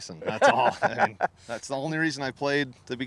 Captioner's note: laughter